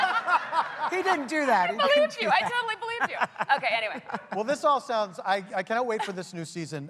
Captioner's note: laughter